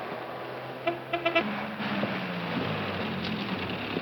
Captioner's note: car honking